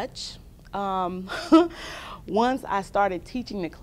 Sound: laughter

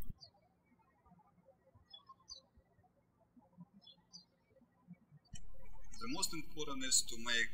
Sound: birds chirping

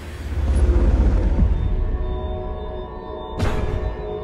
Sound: sci-fi effects

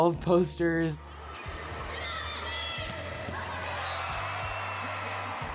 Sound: crowd cheering

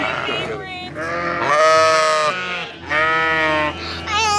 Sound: sheep baas

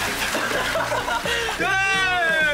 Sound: laughter

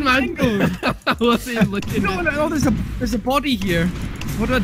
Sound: laughter

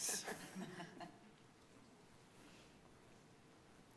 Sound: laughing

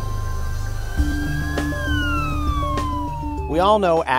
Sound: ambulance sirens

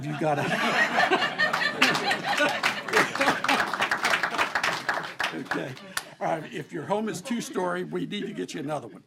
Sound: laughter and applause

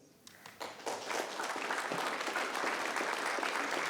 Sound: applause

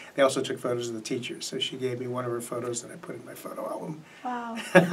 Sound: laughs

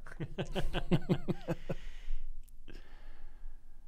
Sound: laughing

